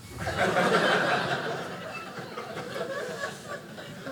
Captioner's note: audience laughing